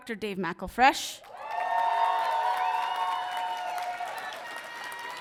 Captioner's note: audience cheering